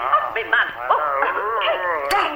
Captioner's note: zombie groaning; Sally and Gladys yelping on radio